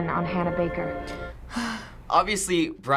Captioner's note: sighs